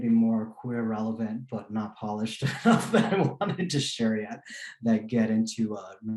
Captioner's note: laughing